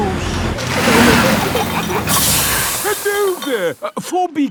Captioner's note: peppa and george giggling; air hisses